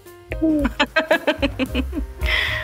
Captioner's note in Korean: 악당의 웃음소리